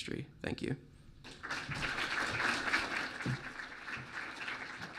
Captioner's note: clapping